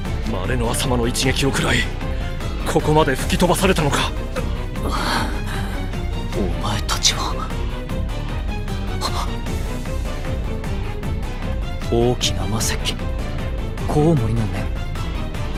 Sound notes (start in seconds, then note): 8.8 gasp